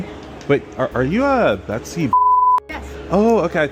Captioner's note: beep